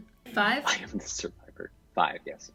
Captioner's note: laughing